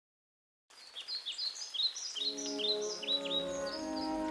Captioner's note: birds chirping